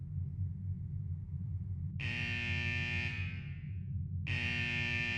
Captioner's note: alarm claxons